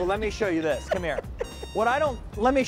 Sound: laughing

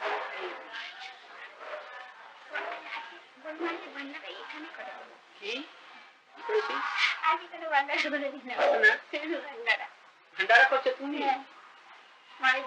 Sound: Hindi

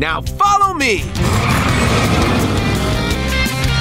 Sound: accelerating

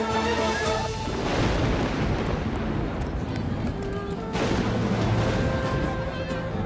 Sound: Gök gürültüsü efekti

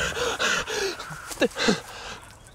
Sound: panting

